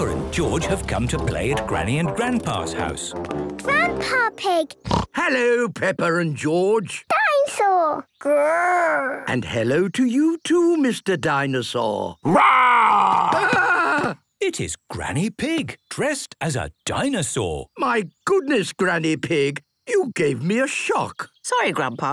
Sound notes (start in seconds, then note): 4.8 snorts